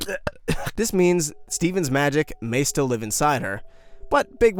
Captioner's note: coughs